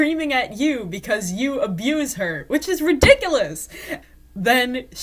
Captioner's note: hits table